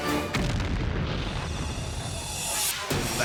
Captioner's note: site exploding